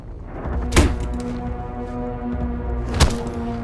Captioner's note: thumping